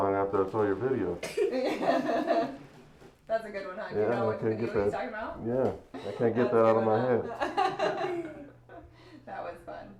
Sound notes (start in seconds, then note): 1.5 laughing; 7.4 laughing